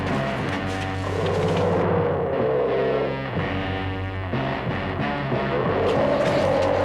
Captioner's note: intense dramatic music; dinosaur roaring